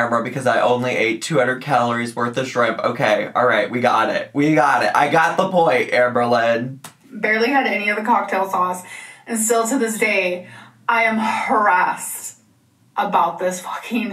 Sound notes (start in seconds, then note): 6.5 keyboard clicking